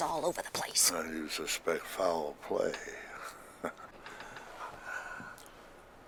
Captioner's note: chuckles